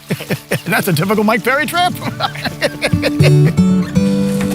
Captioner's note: laughing; laughs